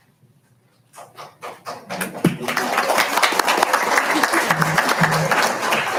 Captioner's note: audience applauds